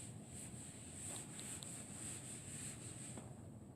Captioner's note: wiping sounds